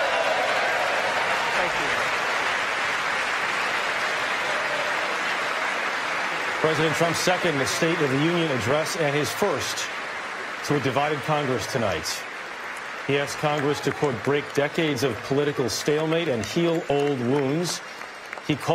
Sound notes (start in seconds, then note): 3.2 applause